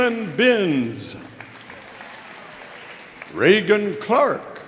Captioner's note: audience applauding